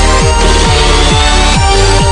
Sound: screech

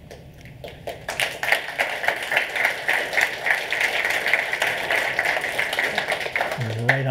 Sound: applause

